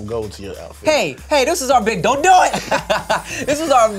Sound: laughs

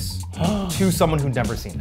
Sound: gasping

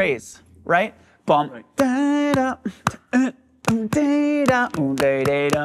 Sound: vocalizes, claps hands

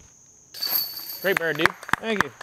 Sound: applause

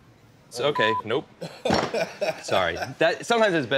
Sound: laughs

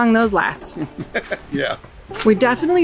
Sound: laughs

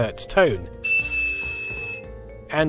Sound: 2,600Hz tone

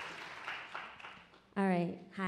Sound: audience applauding

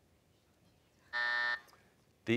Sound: buzzer

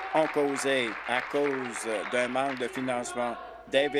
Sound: applause

